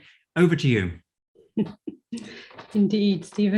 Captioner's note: chuckling